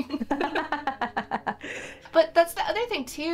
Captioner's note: both laughs